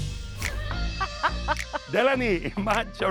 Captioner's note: laughing